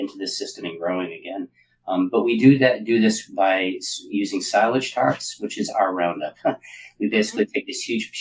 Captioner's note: laugh